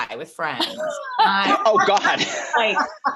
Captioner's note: Jessie laughing